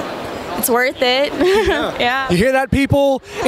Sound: laughs

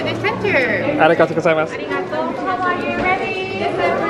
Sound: cast Member speaks Japanese; speaks Japanese

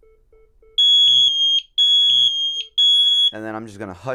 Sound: alarm beeps

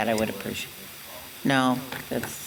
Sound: man speaking off mic

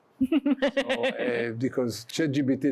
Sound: laughs

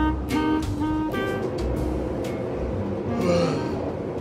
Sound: yawn

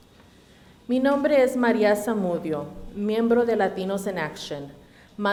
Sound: speaking in Spanish

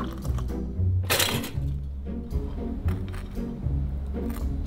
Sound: toaster pops

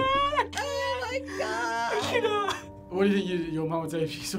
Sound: laughs

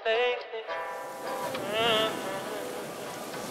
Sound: ocean sounds

